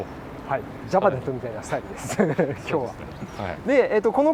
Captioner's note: laughs